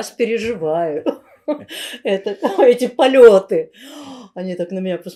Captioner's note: laughing